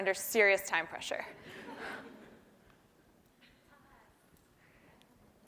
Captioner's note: laugh